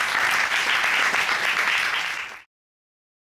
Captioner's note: audience applauding